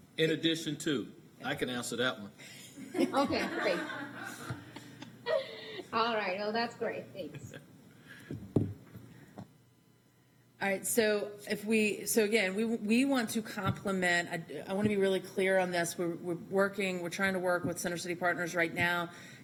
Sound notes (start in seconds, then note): 7.3 laughter